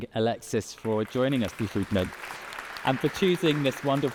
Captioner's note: audience applauding